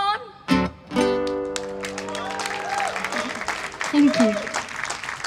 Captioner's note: cheers and applause